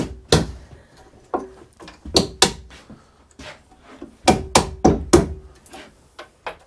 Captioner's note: hammering